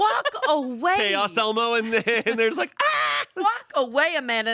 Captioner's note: screams